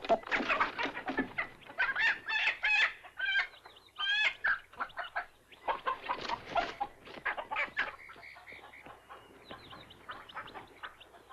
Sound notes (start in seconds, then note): 0.2 squawking; 4.5 chickens clucking